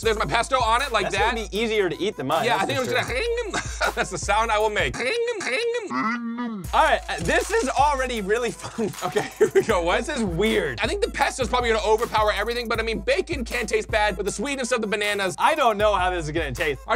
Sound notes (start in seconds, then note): 3.6 squeaks; 4.8 laughs; 5.0 squeaks amplified and distorted